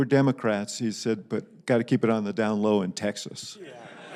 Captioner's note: laughter